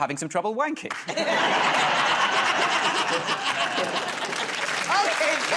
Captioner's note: laughter